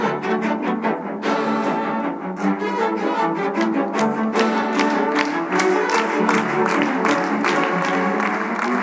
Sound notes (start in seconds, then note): 3.4 audience clapping